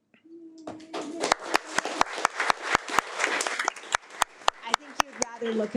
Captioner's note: audience applauding